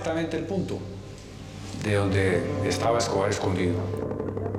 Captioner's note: Spanish spoken audio